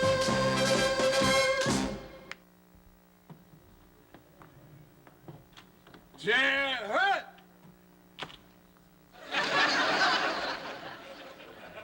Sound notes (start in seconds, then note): 9.2 laughter